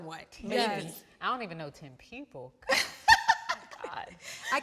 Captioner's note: laughs